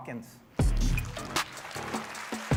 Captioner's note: upbeat music; applause